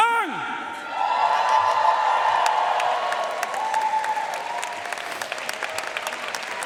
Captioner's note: audience cheering and applauding